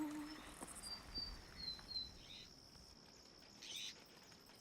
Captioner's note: birds singing